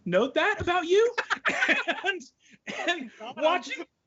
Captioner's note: laughing loudly